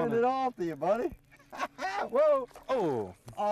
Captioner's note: laughter